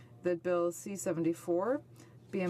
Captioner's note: speaking French